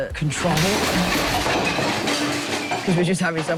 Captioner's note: clatter